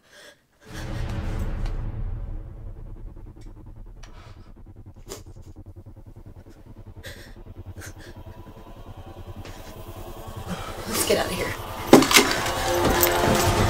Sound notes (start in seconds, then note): 5.4 crying; 13.4 dramatic music